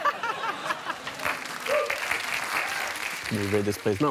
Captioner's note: laughter; applause